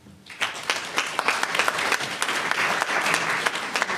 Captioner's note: audience applauds